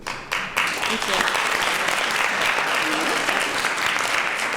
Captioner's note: applause